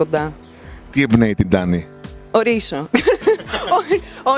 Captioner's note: laughs